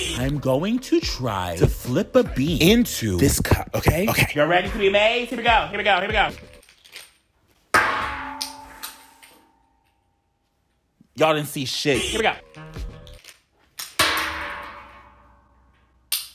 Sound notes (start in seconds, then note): 6.4 bean rattling; 7.7 bean twanging; 8.8 bean clacking; 13.1 bean rattling; 13.8 bean twanging; 16.0 bean clacking